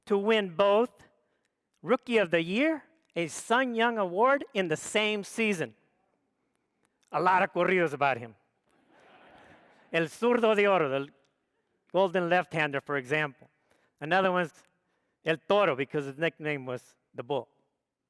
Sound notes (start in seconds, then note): 8.9 audience laughs; 10.3 speaks foreign language